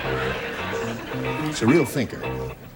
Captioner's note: laughter